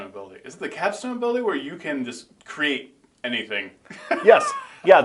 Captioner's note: laughing